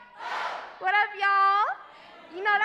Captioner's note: crowd